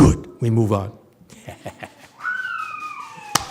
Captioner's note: laughs